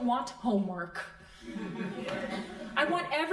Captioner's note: crowd laughing